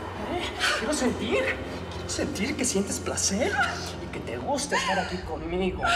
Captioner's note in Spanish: sollozos